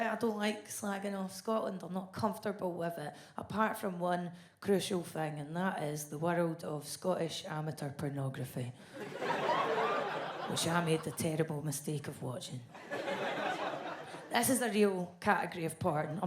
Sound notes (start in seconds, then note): 9.0 audience laughs